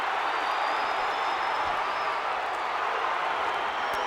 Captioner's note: crowd cheering